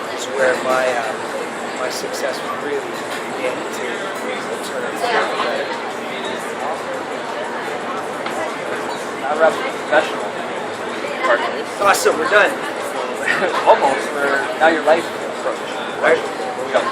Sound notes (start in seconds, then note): 13.2 laughs